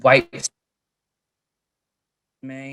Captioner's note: audio cuts out